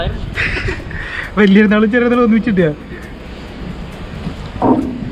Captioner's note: laughing